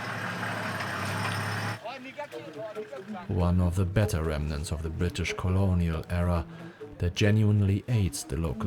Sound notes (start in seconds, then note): 1.8 people chatting